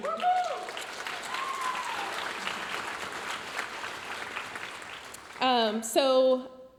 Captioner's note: audience applauding